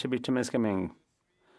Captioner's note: speaking French